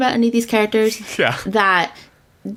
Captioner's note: laughs